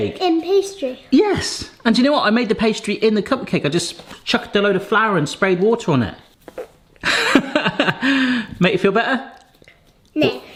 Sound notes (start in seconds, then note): 7.0 laughs